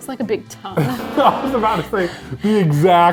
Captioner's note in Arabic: يضحك إيفان